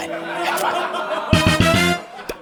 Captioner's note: laughter